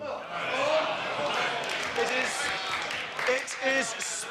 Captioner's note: applause